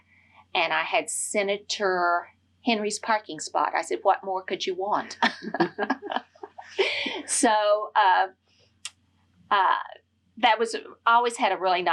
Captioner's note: laughter